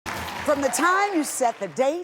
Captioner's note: audience applauds